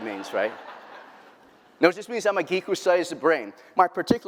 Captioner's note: laughter